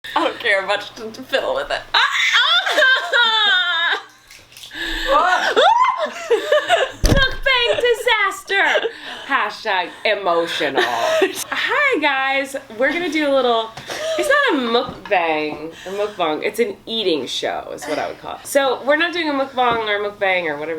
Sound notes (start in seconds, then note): 2.7 screams; 6.0 shrieks